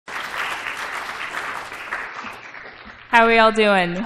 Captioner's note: applause